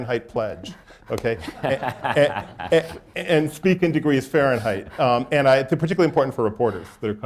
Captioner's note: laughter